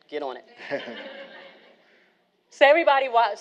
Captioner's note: all laughing